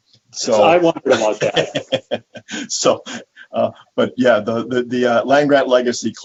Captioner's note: laughs